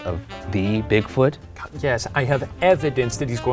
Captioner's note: scoffs